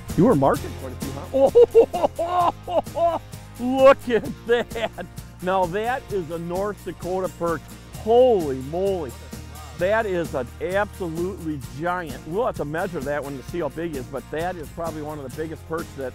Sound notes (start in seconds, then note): 1.2 laughing excitedly